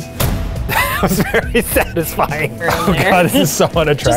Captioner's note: whacking; laughs